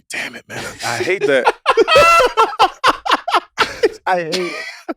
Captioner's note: laugh